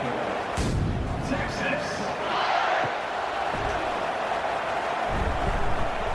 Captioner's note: crowd Noises